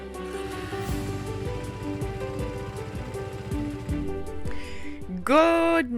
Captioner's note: motorcycle engine rumbling